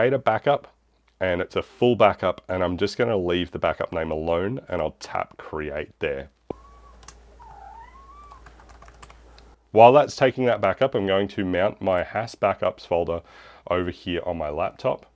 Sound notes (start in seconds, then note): 8.2 keyboard clicking